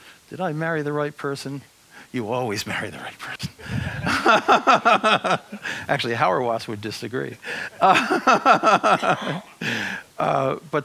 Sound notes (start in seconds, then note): 3.7 laughs; 7.4 laughs